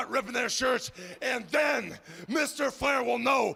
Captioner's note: none